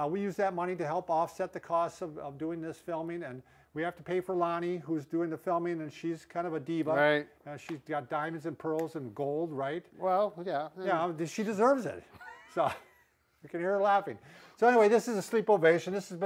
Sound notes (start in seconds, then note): 12.1 laughter